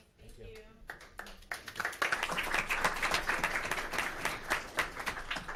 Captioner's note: audience clapping